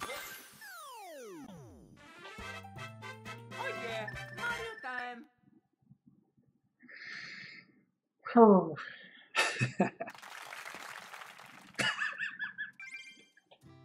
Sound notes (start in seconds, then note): 9.4 chuckles; 11.7 laughs